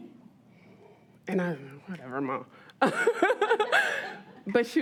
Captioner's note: all laugh